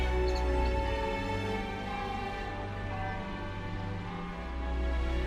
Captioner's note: bells chiming